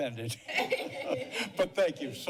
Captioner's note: laughter